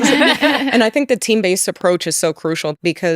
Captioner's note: all laughing